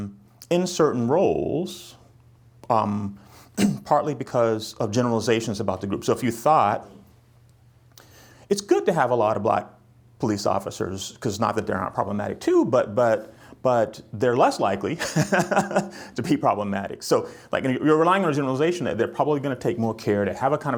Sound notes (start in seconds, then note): 14.9 chuckles